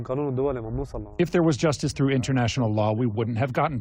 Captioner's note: through translator